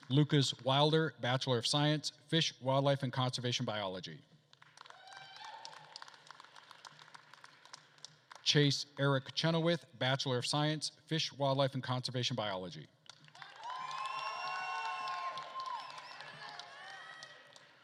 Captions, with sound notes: Lucas Wilder, bachelor of science, fish, wildlife and conservation biology. (attendees applauding and cheering) Chase Eric Chenoweth, bachelor of science, fish, wildlife and conservation biology. (attendees applauding and cheering)